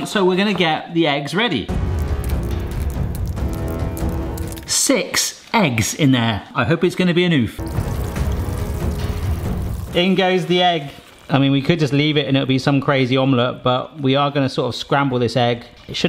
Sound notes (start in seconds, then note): 1.7 upbeat music; 7.9 egg whirring